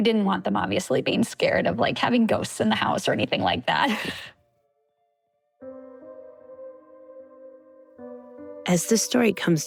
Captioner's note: chuckles